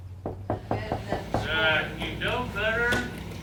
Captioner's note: knocking